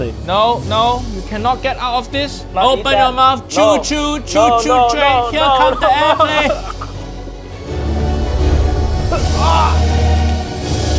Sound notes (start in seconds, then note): 4.3 nephew loan shark whimpering; 7.9 dramatic music